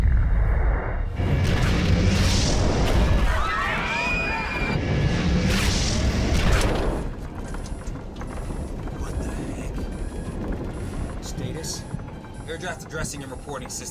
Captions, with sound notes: [SCREAMING] [ALARM BLARING] WHAT THE HECK? STATUS? AIR CRAFT ADDRESSING AND REPORTING SYSTEM